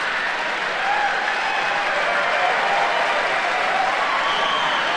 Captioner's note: audience applauding